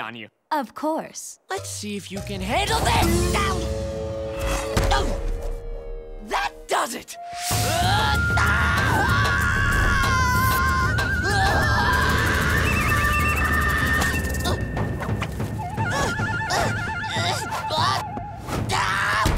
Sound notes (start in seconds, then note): 7.5 screaming; 15.4 grunting